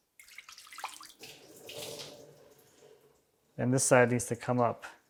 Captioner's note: water dripping